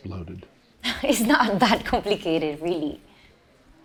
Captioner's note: laughs